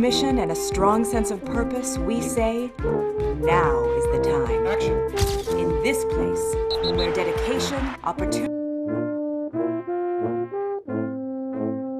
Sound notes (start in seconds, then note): 8.1 speaker cuts out